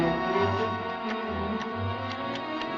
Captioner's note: ticking